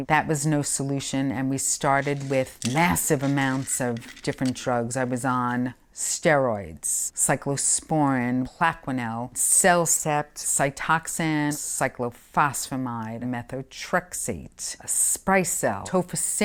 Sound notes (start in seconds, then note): 1.8 pills rattling